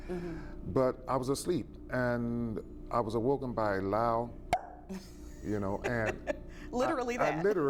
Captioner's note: pop